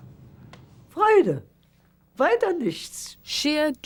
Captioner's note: speaking german